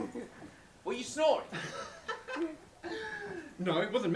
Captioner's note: very loud coughing; laughing awkwardly